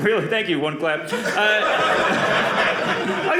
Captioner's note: audience laughing